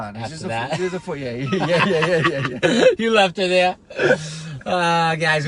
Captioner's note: laughs